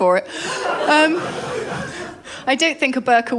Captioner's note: laughter